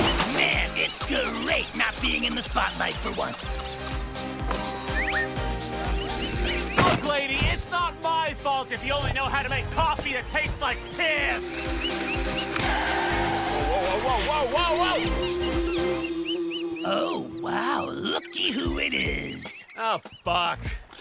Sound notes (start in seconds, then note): 15.3 Queives squeaking